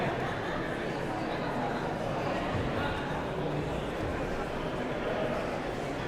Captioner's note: audience chattering continues